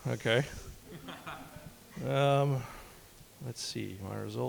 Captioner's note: audience laughing